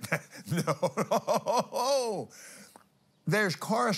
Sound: laughs

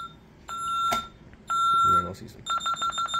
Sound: beep; fast Beeping

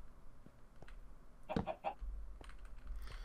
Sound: chicken cluck cluck cluck's

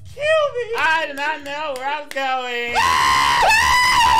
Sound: clapping; screaming

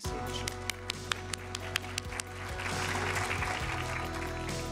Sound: audience applauds; upbeat music

